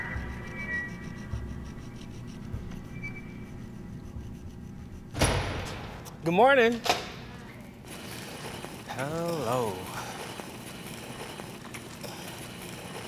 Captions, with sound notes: (door opens) - Good morning. - Hi. - Hello. (cart rolling)